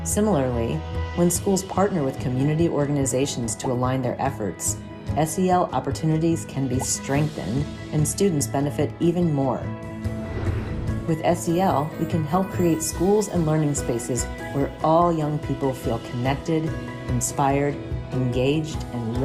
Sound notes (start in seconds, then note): 9.8 gentle upbeat music; 10.2 graphic whooshes